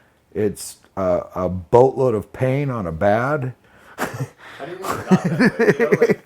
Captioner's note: laughing loudly